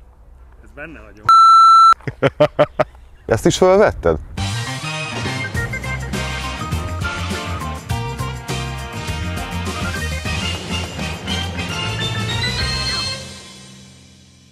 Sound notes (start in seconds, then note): 2.0 laughs; 4.7 theme tune playing